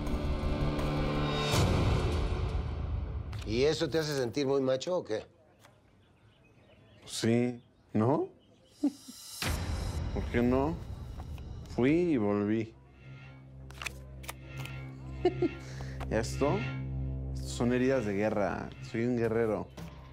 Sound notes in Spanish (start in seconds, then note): 15.0 risas